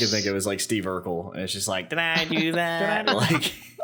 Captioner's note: Passible Urkel impression